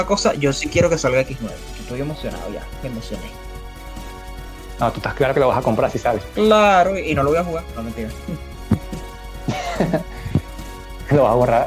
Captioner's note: sarcasm